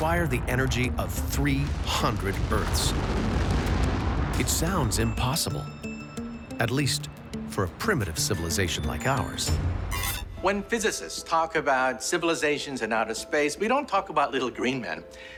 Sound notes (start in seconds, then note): 2.9 explosion